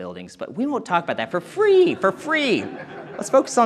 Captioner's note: audience chuckling